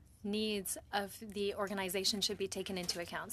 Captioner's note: speaking French